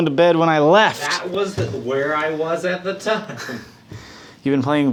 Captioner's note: laughing